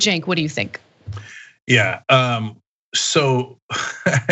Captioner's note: laugh